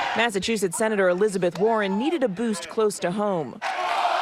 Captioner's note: cheers and applause